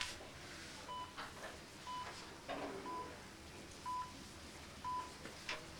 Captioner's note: monitor beeps